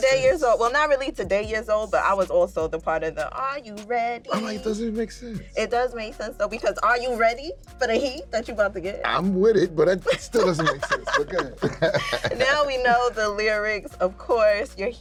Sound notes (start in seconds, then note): 10.0 both chuckling